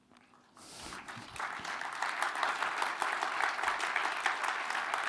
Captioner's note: applause